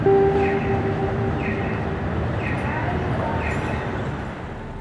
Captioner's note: crosswalk chirping